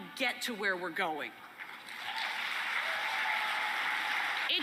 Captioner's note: applause and cheering